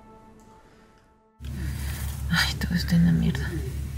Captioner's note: none